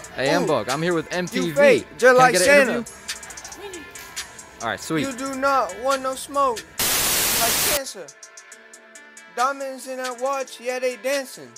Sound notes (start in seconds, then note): 6.8 TV static